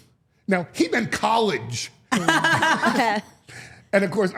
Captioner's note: Steph and Elyse laugh